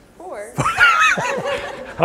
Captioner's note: laughter